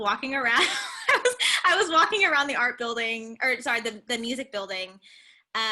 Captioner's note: laughter